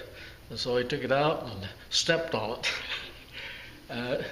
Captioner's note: laugh